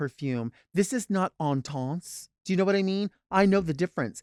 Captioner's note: foreign language